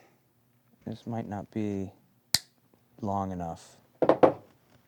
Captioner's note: clippers snip